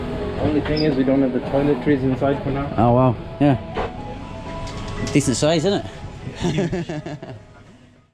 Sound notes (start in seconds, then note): 6.3 laughter